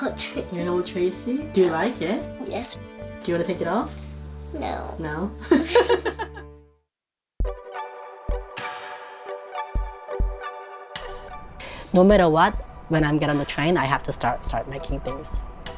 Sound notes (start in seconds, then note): 5.4 laughs; 7.4 cheerful music